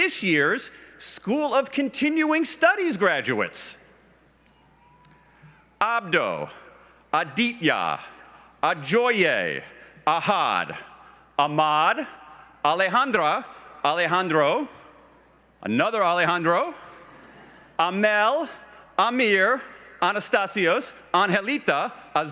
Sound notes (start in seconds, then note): 16.5 laughs